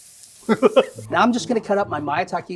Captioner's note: laughing